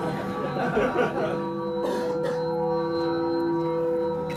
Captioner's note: laughter